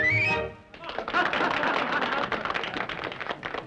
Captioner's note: applause